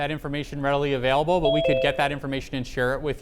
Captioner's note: phone message dings